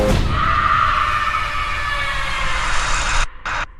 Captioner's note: screaming